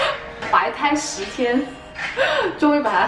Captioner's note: laugh